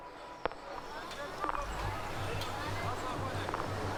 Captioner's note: sounds of a crowd